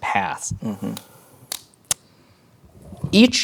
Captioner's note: pen clicking